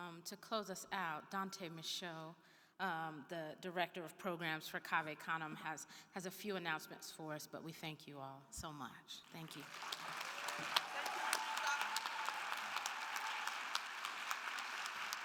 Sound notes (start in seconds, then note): 9.4 everyone applauding; 9.6 attendees cheering